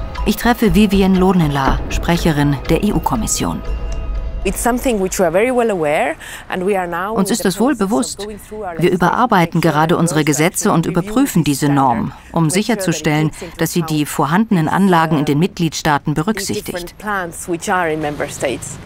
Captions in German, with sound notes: Ich treffe Vivian Loonela, Sprecherin der EU-Kommission. (englisch:) Uns ist das wohl bewusst. Wir überarbeiten gerade unsere Gesetze und überprüfen diese Norm, um sicherzustellen, dass sie die vorhandenen Anlagen in den Mitgliedsstaaten berücksichtigt.